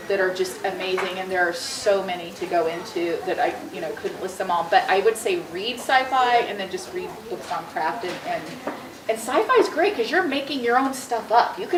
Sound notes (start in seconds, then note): none